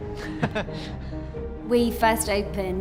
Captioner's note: laughing